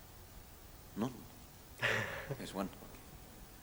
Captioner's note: laughter